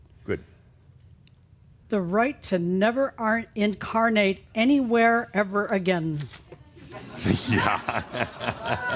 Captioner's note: some chuckles